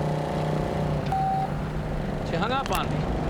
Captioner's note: phone beeps